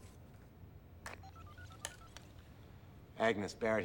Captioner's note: cell phone dialing